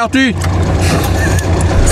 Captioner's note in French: rire soufflé